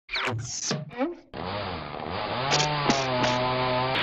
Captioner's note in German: Motorsägen lärm